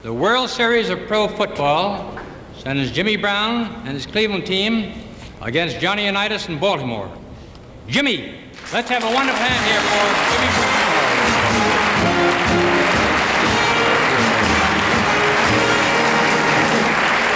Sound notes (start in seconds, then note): 9.4 bright music; 10.2 audience applauding